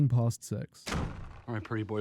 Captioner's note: threatening door slam